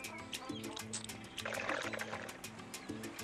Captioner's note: slurping